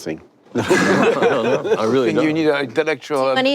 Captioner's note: panelists laugh